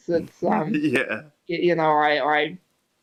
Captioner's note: laughs